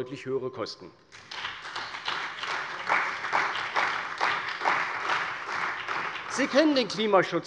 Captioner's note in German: Beifall bei der CDU und dem BÜNDNIS 90/DIE GRÜNEN